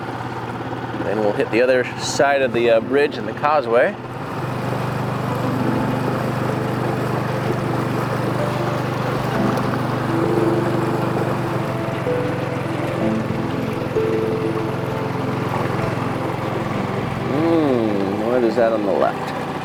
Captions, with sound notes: Then we'll hit the other side of the bridge in the causeway. (upbeat music) (boat engine rumbling) What is that on the left?